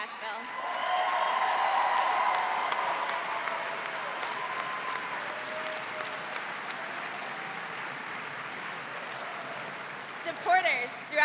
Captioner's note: cheers and applause